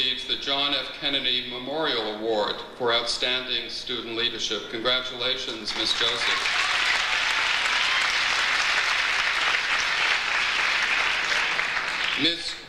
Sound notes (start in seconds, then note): 5.6 audience applauds